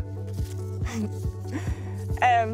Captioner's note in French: rire